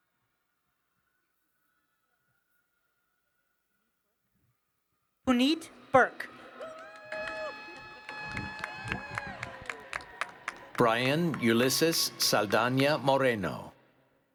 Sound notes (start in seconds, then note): 6.2 applause